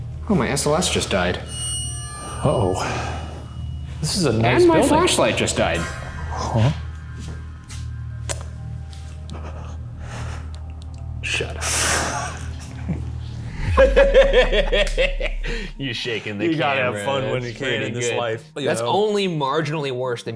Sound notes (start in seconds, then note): 1.8 eerie music; 7.7 creepy music; 13.7 both laughing; 13.8 laughs